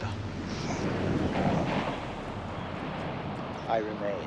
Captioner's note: waves crashing